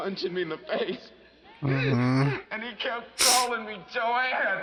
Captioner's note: sniffles